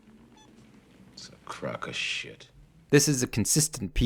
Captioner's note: wire sizzling